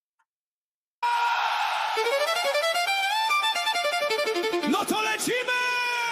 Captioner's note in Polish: krzyk